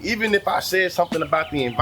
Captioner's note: birds Chirping